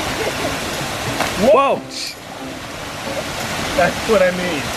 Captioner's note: laughs